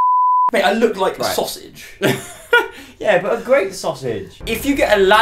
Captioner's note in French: rire